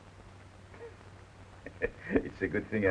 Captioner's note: Pepe chuckles